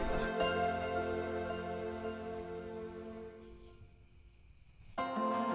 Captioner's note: birds chirping, crickets; light music